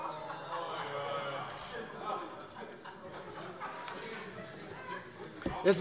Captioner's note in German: Lachen SPD und DIE LINKE